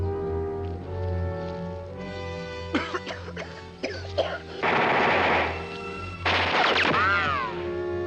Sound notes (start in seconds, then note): 2.7 coughing; 4.2 bullets firing